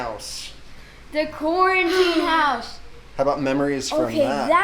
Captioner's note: sighs loudly